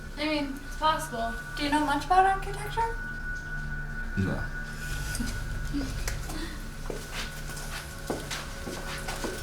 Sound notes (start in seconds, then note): 5.3 laughs